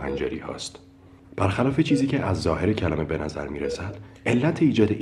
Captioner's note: in Persian